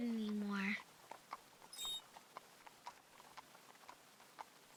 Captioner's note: squeak